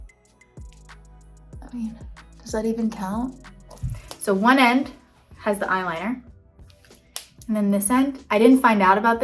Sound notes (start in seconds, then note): 6.5 case snaps